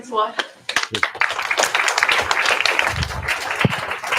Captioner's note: applause